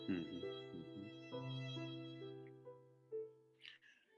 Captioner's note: Cassandra sobs